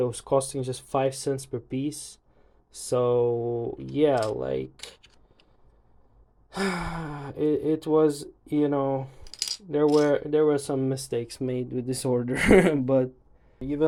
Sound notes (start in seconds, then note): 6.5 sigh